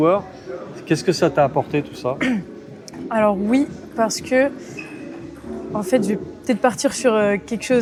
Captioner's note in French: raclement de gorge